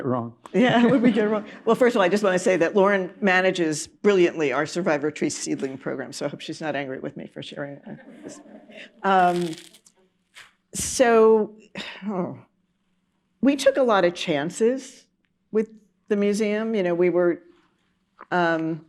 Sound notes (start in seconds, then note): 4.4 laughter